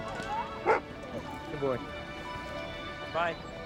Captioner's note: barking